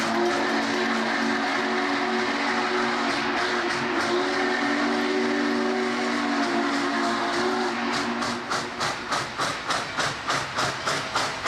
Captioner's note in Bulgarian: Аплодисменти